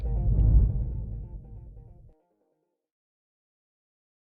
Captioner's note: soft swoosh